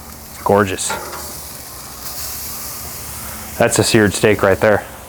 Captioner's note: filets searing